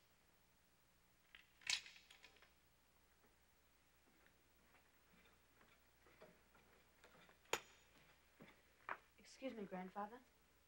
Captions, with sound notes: (katana clicks) - Excuse me, grandfather.